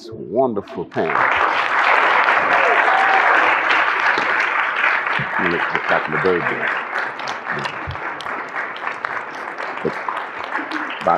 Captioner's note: applause